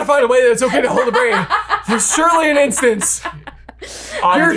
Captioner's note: laughs